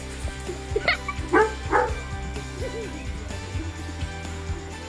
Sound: child laughs; dog barking

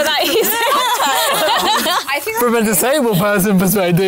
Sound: laughter

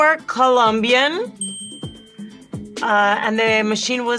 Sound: bell dings

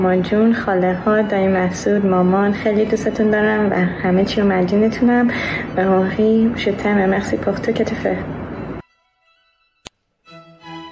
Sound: non-english speech

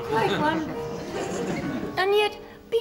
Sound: laughter

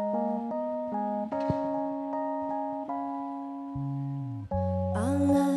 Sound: metal rattling

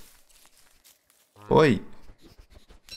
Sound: mole eating

